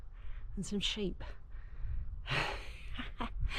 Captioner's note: laughs